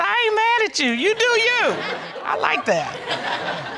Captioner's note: audience laughing